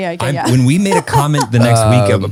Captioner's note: laughing